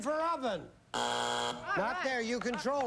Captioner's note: buzzer